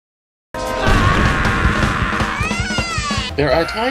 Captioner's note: scream